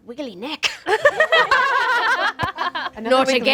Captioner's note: group laughs